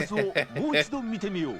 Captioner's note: laughter; non-english speech